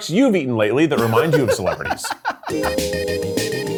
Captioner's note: giggling; upbeat whimsical music